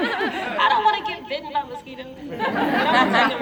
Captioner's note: laughter; laughter